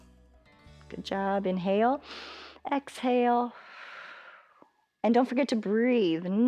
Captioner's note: exhales; inhales